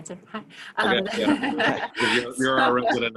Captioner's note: laughs